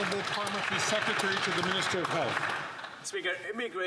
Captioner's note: some Applause